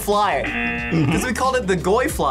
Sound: buzzer

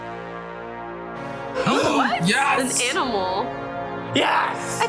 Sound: gasps

